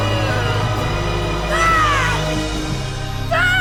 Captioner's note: screaming